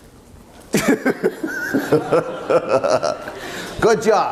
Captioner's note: laughter